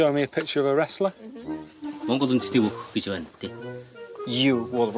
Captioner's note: speaks Mongolian